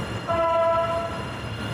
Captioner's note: train blows horn